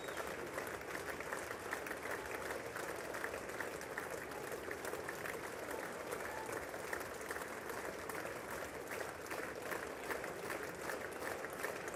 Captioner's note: cheers and applause